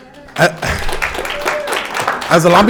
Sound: audience applauding

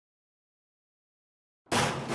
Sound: metal clanging

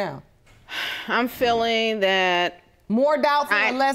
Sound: sighs

